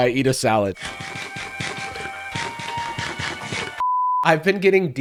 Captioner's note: Minecraft eating noises; standby music